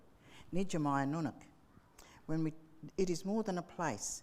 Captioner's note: speaking in foreign language